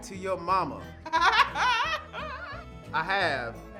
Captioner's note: woman laughing